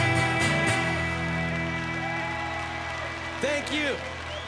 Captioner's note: cheering